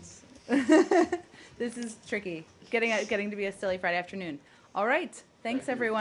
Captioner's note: laughter